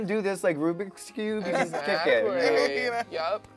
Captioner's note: laughs